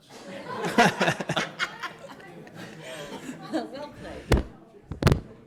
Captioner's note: all members laugh